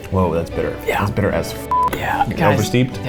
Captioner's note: beep